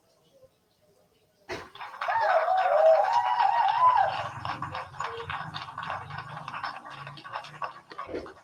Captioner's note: background applause